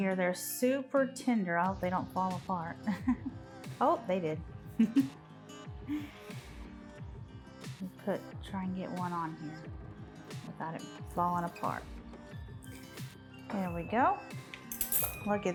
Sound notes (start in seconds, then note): 2.8 chuckling; 4.7 giggling